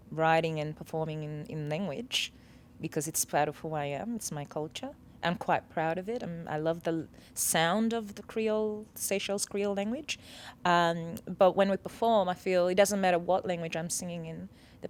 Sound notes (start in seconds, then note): none